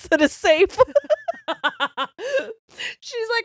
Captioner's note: laughing loudly